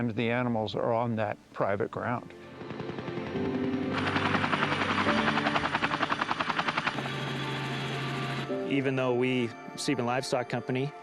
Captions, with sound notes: because many times the animals are on that private ground. (machinery rumbling) Even though we, Seaman Livestock Company,